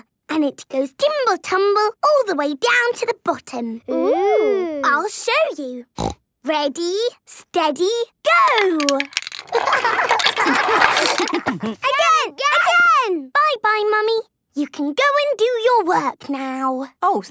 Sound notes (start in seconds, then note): 6.0 snorting; 10.3 laughter